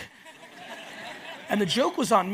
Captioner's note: audience laughs